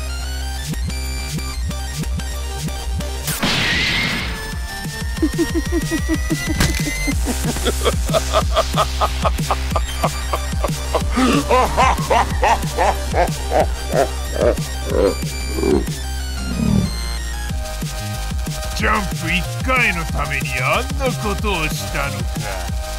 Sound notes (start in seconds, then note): 5.1 nefarious laughter